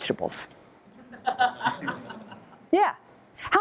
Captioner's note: laughter